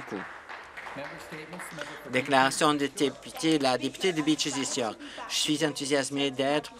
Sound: some Applause

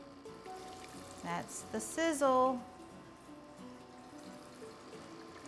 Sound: oil sizzling

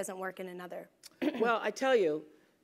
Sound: cough

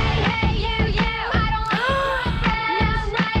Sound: gasps

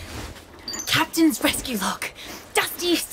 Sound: whispered

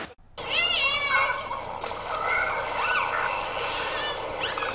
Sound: dolphin sound

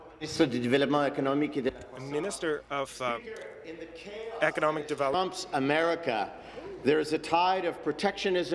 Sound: speaking in French

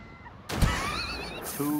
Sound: laughs

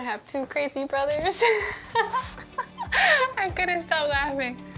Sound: laughs

